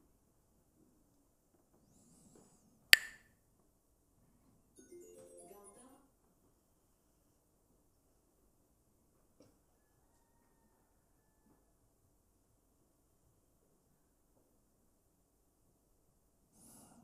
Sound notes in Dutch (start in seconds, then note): 2.9 klakt met stokjes